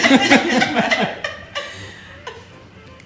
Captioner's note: laughing